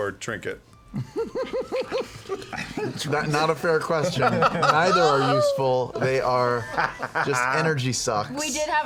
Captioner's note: giggles